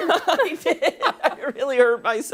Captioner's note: laughter